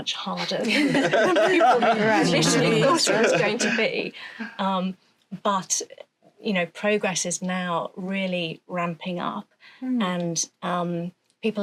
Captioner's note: laughter